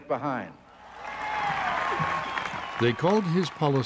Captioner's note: crowd cheers